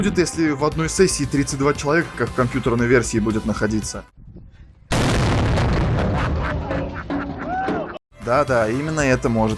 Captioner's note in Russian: взрыв телефона